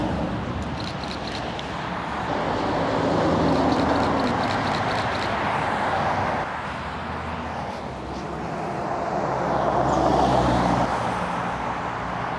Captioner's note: engine noise